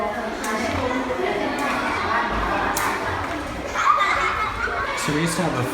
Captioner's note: jump rope slapping the pavement